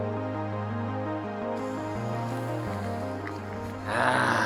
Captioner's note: boiling water